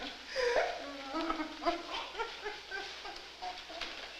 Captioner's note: crying